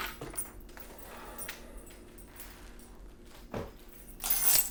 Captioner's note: Terry sighs